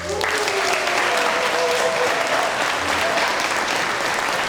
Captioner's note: applause and cheering